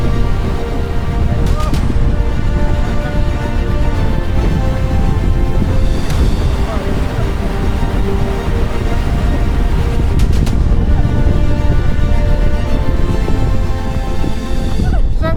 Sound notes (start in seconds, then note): 0.0 sound of extreme wind